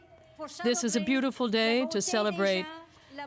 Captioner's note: speaking French